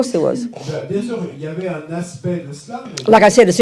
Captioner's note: French